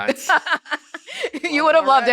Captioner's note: laughs